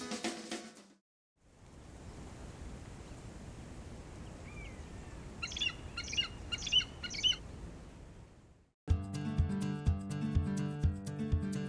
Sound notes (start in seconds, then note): 5.3 bird chirping; 8.8 happy music